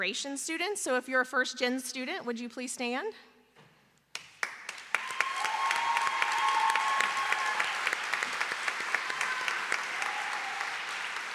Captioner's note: applause; cheering; applause